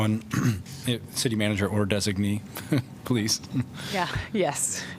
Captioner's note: laughter; laughter